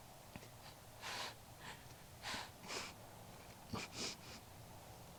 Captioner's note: Nellie breathes heavily